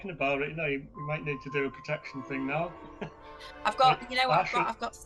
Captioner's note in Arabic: يضحك